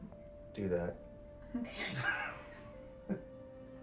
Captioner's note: laughs